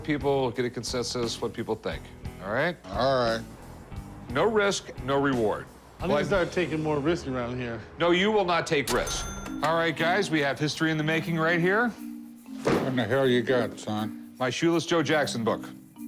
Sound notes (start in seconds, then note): 8.8 cash register dings